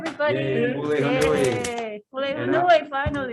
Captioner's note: speaking in a foreign language